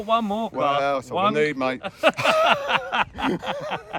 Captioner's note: laughing